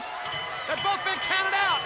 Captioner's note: bell rings